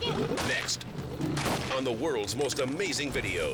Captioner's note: rifle blasts